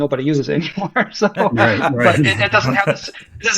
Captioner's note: laughs